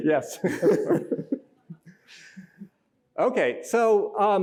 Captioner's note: laughter